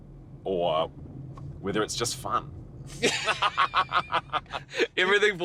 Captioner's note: laughing